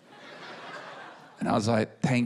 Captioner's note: laughter